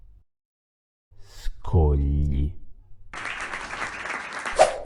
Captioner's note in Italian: applauso